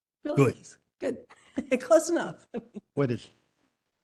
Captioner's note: laugh